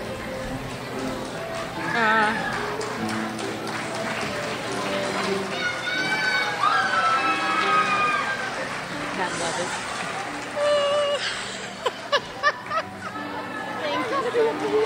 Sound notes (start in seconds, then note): 4.8 crowd applauds; 7.9 crowd cheers; 10.6 woman laughs